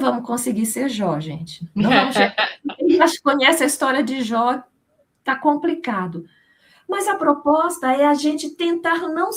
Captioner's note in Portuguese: risadas